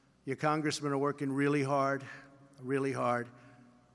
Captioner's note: none